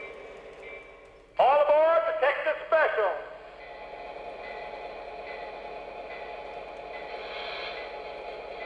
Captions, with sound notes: - [Voiceover] All aboard the Texas Special! (train motor)